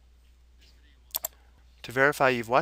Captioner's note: mouse clicking